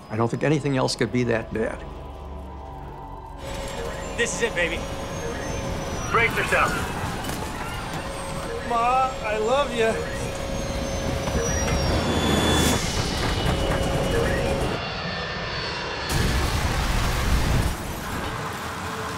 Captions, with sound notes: I don't think anything else could be that bad. - This is it, baby. Brace yourselves. Ma, I love you. (plane soaring) (plane rattles) (plane crashing)